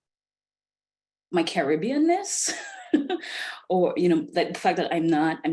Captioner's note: laughs